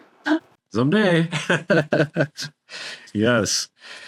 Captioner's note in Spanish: risas